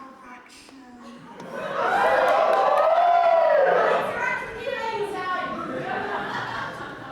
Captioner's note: audience whoops and someone says "I'll be interacting with you ladies tonight!"